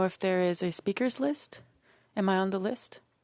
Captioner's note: speaking French